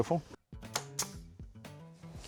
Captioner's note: nail gun fires